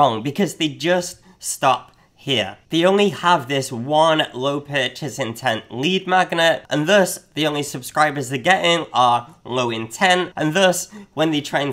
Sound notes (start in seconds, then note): none